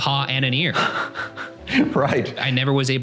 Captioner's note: laughing